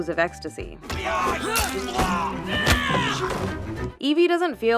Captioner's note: fighting grunts